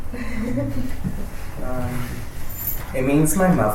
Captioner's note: laughs